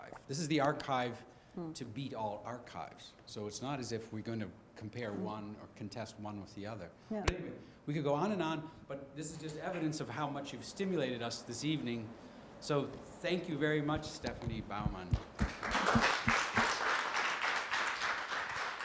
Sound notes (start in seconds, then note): 15.2 applause